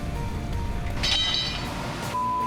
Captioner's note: clang